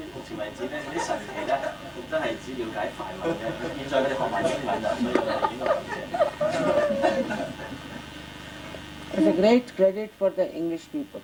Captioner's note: laughter